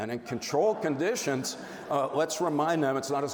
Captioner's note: audience laughs